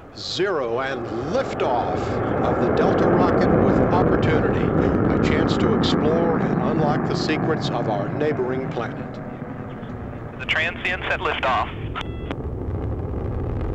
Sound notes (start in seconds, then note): 11.9 beep sound